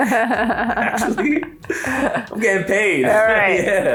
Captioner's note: laughs